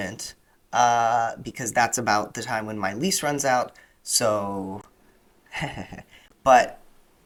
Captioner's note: weak laughter